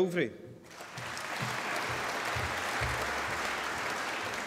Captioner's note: applause